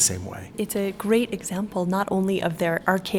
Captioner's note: voiceover